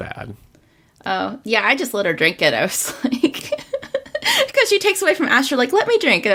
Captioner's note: laughs